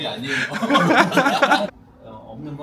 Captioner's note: laughs